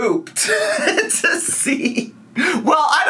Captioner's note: laughing